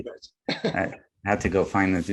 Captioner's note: laughs